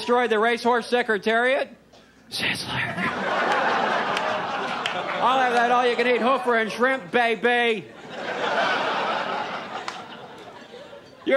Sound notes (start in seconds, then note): 2.2 whispering; 3.0 audience laughs